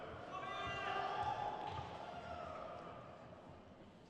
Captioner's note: crowd cheers